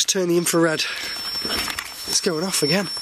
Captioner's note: alarm ringing